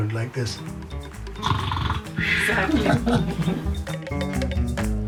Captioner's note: pretends snoring